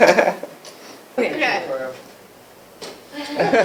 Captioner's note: laughing